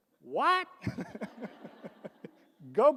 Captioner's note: all laugh